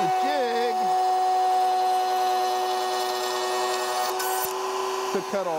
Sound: saw revving

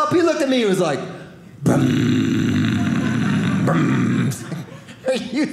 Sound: engine reving noises

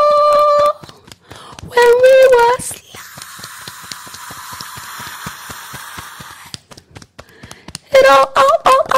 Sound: beating Chest

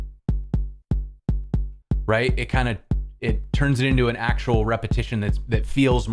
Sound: thump-thump

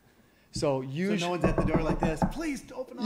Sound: knocks on desk

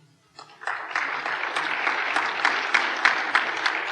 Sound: applause

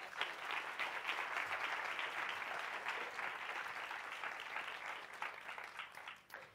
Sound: audience applause

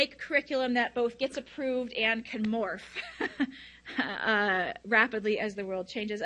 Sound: laughs

